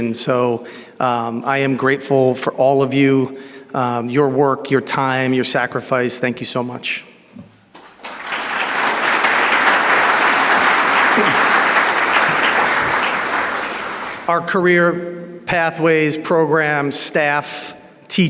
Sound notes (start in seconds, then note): 7.7 audience applauds